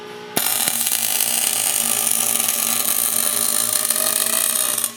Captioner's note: welding machine sizzling